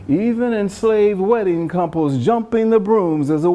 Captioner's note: none